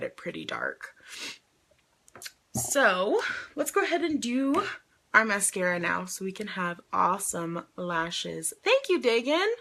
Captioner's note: sniffs